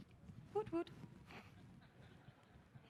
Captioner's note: laughter